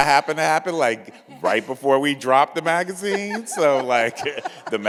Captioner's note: laughs; chuckles